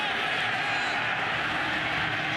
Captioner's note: whistle